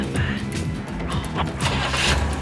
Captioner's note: whispering